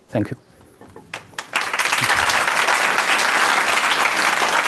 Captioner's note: applause